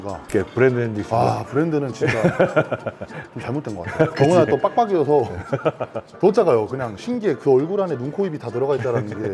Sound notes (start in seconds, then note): 5.2 laughing in agreement; 5.2 laughing intensifies